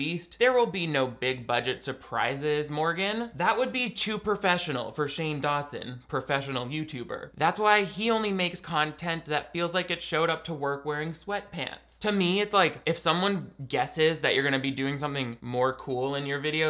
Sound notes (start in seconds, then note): none